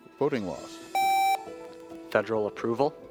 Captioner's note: contestant beeping